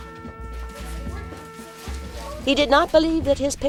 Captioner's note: audio book continues